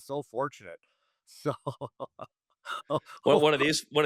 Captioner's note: laughing